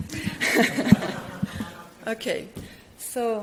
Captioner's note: audience laugh